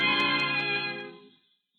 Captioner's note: bell rings